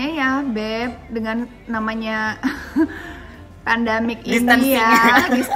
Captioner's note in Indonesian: laughs